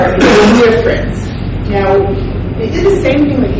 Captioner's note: coughing drowns out speaker